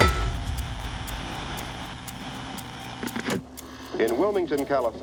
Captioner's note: static hissing